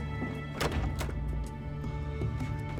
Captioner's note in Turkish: Kapı açılma sesi